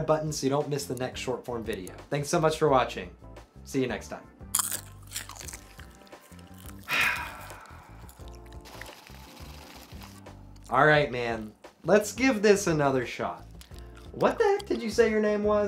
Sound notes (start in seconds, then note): 9.8 crunching popcorn; 10.5 sighs